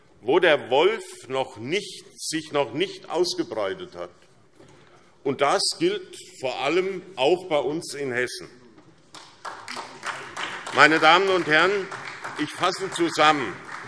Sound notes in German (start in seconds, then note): 9.1 Beifall SPD